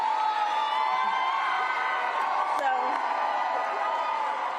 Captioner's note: cheers and applause